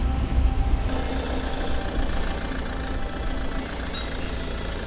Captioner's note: engine rumbling